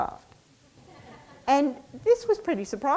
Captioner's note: audience laughs